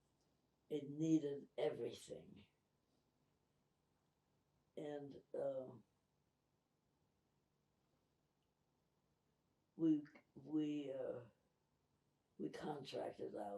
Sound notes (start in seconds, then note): 3.0 pauses 8 seconds